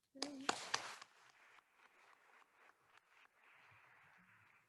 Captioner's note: attendees applauding